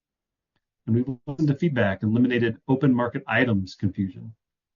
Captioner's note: tape distorts